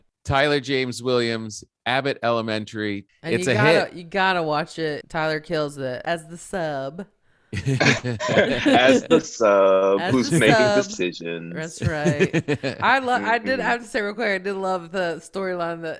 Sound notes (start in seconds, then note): 7.5 chuckling